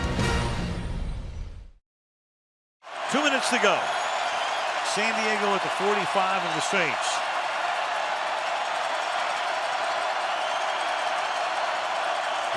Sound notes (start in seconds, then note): 7.6 crowd cheering